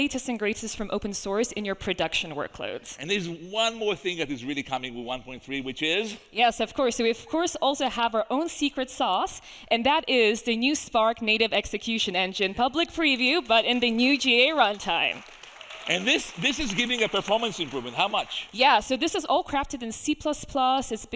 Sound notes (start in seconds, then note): 16.0 audience applauding